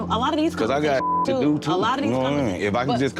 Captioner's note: beep